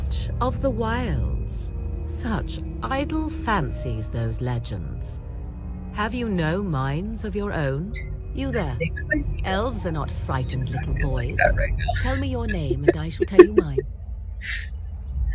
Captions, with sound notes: [Muttering about things they need to do tomorrow] Not gonna worry about that right now. [Laughter]